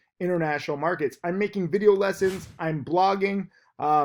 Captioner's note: air whooshes